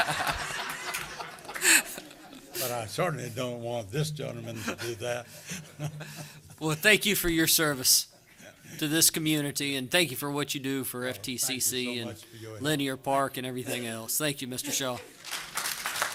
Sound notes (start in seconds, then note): 3.4 laughter